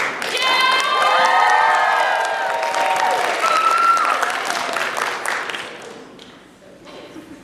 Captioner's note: applause